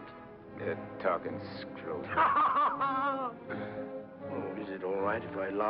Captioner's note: Nick laughs